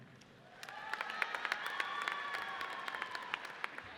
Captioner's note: audience cheers